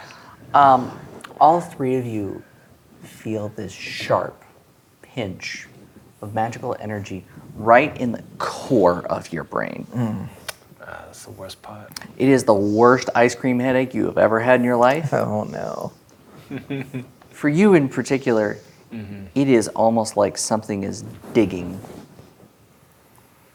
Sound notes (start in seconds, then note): 16.4 chuckles